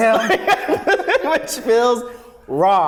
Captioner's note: laughs